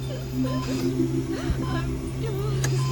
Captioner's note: crying